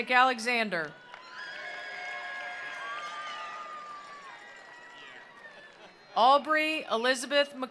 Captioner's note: attendees cheering; attendees applauding